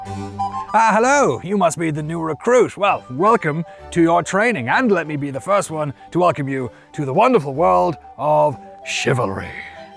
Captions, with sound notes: - (IN A KNIGHTLY VOICE) Ah, hello. You must be the new recruit. Well, welcome to your training, and let me be the first one to welcome you to the wonderful world of Chivalry.